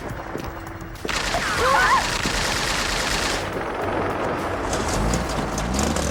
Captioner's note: rapid gunfire popping; girls yelping; engine rumbling